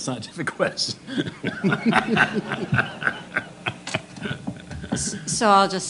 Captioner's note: laughter